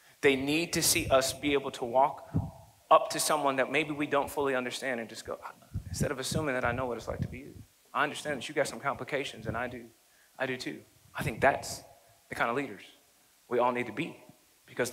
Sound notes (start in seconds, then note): none